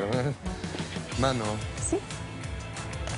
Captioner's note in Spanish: Riendo